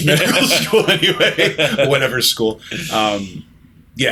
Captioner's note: laughter